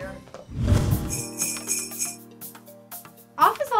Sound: christmas bells ring

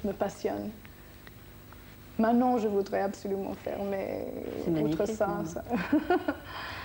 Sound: laugh

